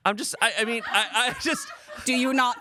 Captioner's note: crew laughs